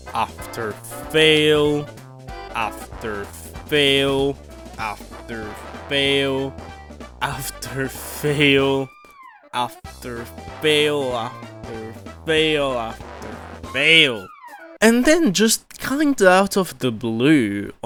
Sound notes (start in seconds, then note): none